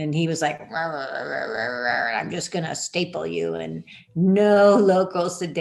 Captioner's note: grumble, grumble, grumble